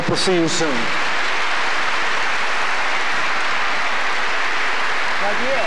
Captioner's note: applause